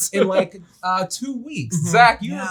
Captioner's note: laughs